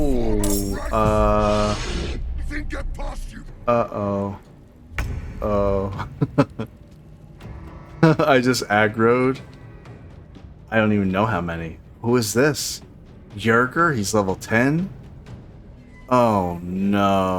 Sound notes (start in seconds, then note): 5.9 laughter